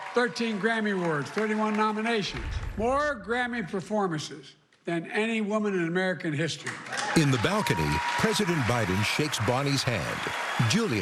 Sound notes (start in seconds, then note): 6.7 cheering and applause